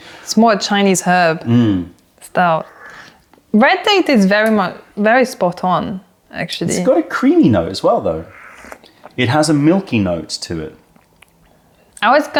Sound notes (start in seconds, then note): 8.3 sips tea